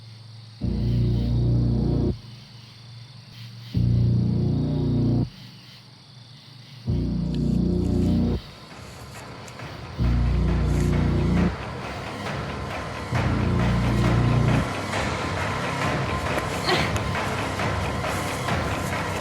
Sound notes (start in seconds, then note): 8.8 intense music; 16.5 Riley grunts